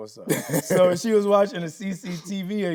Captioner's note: Tyler laughing